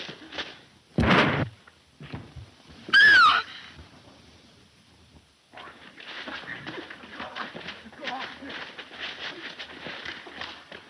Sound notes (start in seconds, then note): 1.1 gun firing; 2.9 Mary screams